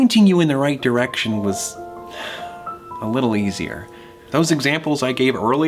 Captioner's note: sighs